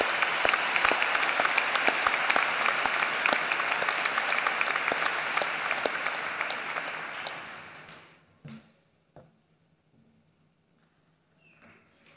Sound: applause

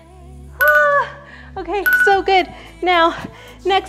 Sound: groans; timer beeps

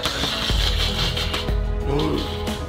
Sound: cat hissing

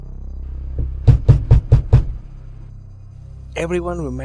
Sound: knok knock

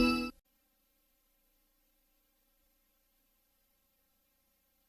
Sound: nostalgic music playing; TV static

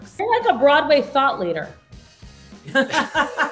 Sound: laughing

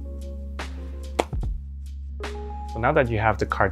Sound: cards slap

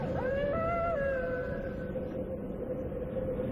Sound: howling

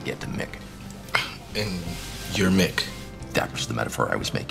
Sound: scoffs

